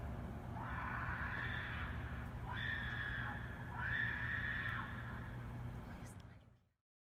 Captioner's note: more distant screaming